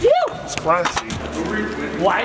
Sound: whooping

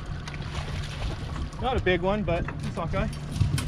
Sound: fish splashing

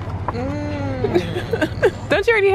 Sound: laughs

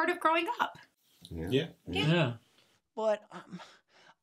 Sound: group sounds of agreement

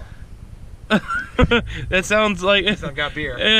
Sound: laughs

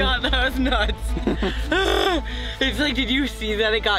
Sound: laughing

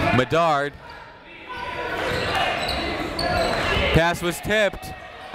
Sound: chatter

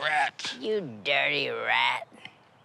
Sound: gravelly voice

